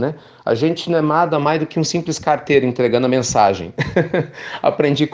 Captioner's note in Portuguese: risos